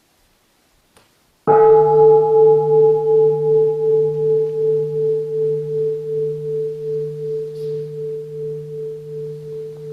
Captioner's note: the sound of the bell